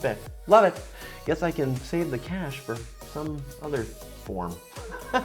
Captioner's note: laughs